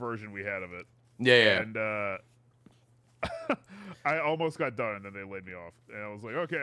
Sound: laughs

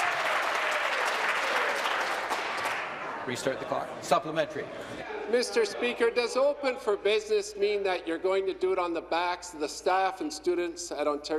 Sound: some Applause

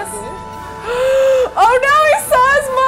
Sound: gasps

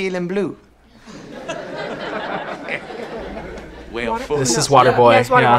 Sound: class laughs

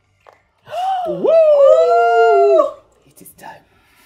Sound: gasps

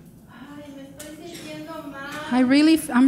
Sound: speaking in foreign language

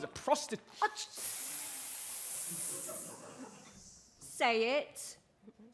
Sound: ghosts hiss

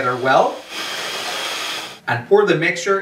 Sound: blender whirs

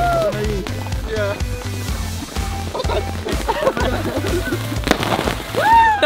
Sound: crackling sound

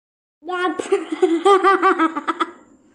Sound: laughs

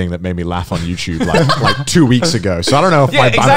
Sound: laughing loudly

